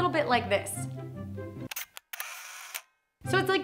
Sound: camera shutter clicks

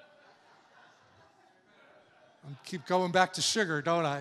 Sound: congregation laughing

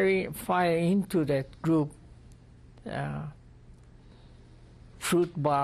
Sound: pauses for 3 seconds

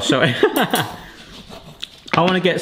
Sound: both giggling

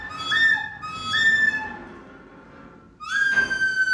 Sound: whistling

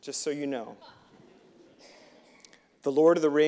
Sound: audience laughing

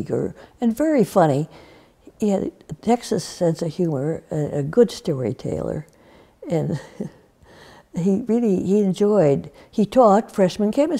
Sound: laughs

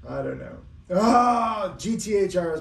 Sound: grunting

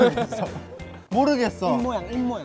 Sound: kekekekeke

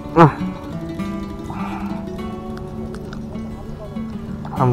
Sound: laughs

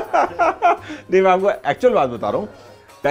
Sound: laughter

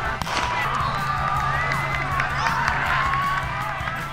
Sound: cheering

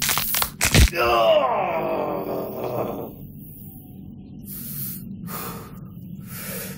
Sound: shoulder cracks; Papi grunts

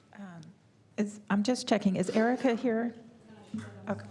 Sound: light applause

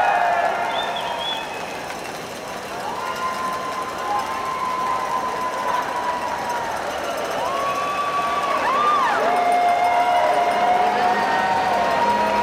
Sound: cheering

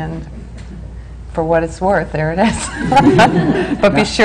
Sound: laughs

